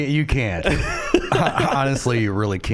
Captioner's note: laughing